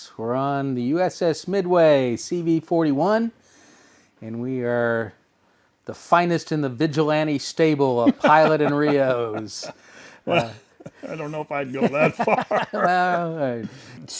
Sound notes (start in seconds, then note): 8.0 laughs